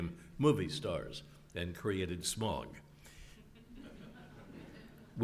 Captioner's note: laugh